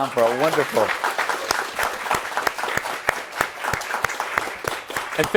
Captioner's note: applause